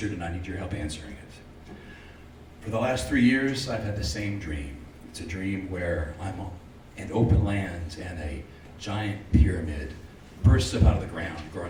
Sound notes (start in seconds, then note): none